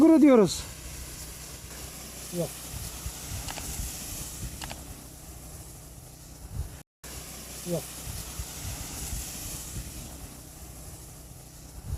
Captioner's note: the sound of the sprinkler while spraying